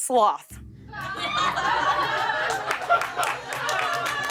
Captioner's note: laughter and applause